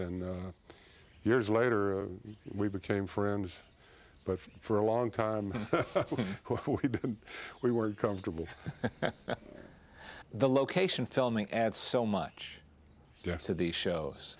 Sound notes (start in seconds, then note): 8.3 chuckles